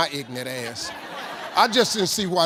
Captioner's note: audience laughing